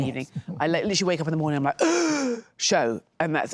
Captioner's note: gasps